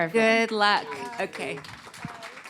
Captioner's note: applause